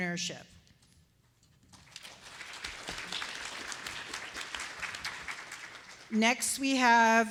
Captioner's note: applause